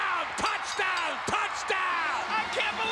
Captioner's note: bell ringing